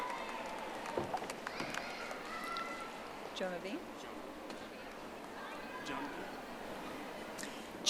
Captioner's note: audience applauding